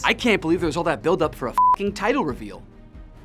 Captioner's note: beep